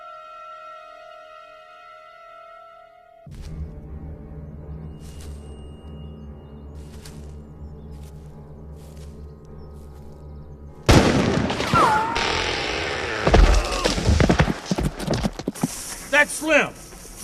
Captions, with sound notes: [gunshots] Ooh. That's Slim.